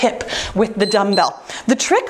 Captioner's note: timer beeps